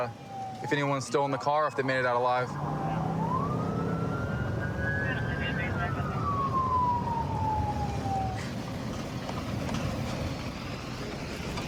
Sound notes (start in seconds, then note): 2.3 police sirens blaring; 5.0 dispatch chatter